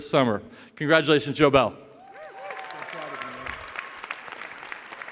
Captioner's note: cheering